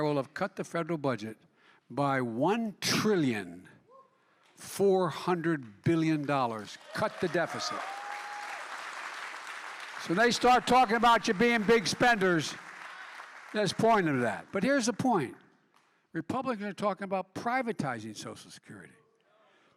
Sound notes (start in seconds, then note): 8.4 applause